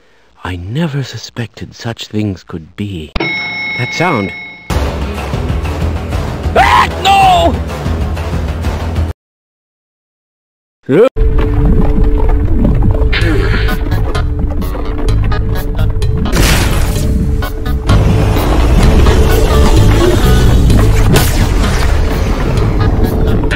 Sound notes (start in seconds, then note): 3.2 elevator ding; 6.5 visitor screams